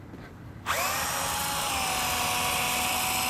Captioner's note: drill whirs